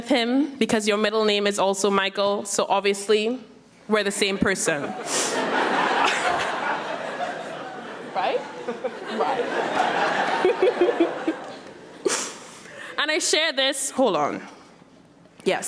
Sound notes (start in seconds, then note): 4.6 audience laughing; 9.9 laughs